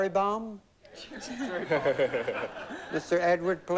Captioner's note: laughter